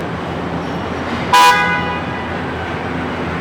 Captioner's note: horn